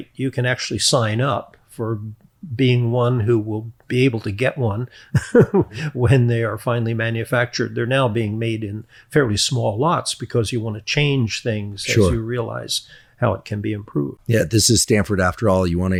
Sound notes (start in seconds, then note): 5.1 chuckles